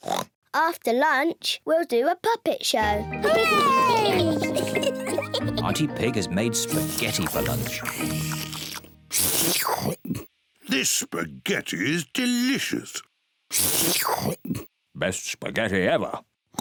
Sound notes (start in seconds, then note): 3.4 giggles